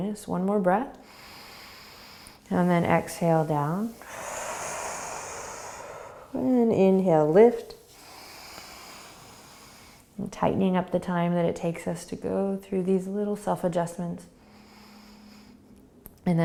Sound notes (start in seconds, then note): 1.2 inhaling; 3.8 exhaling; 8.0 inhaling; 14.4 inhaling